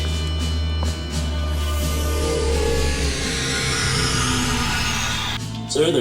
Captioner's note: Klingon transporter-sound